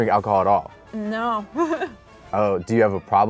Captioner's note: laughs